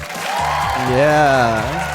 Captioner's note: audience cheering